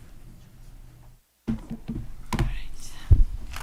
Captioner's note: laptop clattering